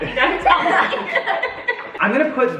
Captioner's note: family laughs